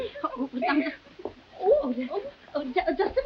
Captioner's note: Veta stammering; woman gasping